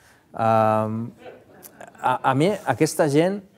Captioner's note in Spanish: risas